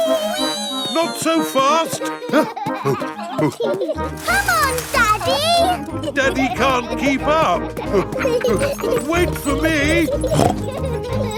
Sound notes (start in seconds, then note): 2.0 panting; 2.8 peppa and george laughing; 10.6 snorts